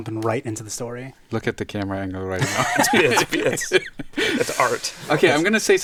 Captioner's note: laughs